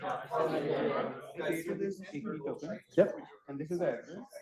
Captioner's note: students chattering